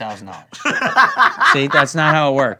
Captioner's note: laughing